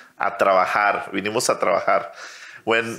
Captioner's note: speaks in foreign language